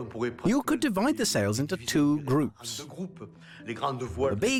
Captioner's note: voiceover